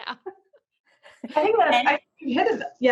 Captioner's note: laughing